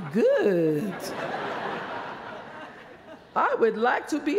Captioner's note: laughter